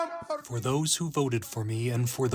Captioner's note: through translator